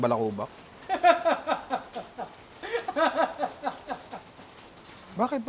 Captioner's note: laughs hysterically